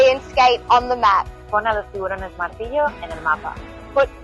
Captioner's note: in Spanish